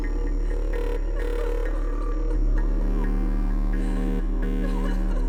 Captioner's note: faint sobbing; dramatic music